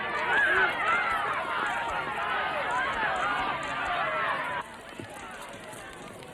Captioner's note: crowd clamoring; camera clicking